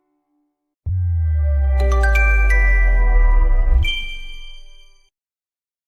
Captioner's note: chime